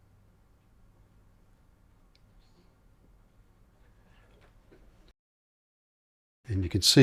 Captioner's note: silence